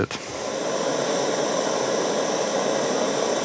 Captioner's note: hissing